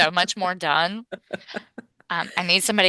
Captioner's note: laughs